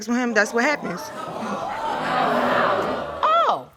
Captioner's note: audience exclaiming